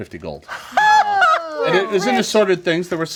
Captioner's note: jubilant laughing